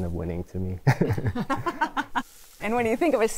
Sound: both laugh

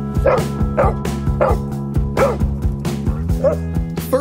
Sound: dog barking

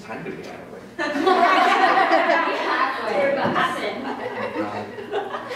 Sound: laughter

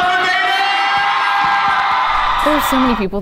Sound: cheering

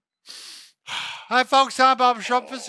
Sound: deep breathing

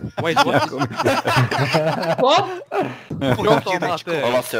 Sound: laughter

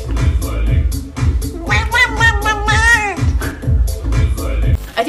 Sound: duck squawking

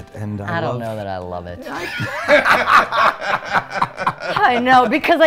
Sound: laugh

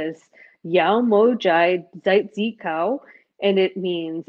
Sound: speaking foreign language

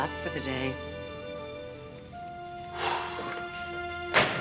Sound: exhaling

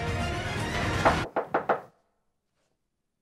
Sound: knocking on door

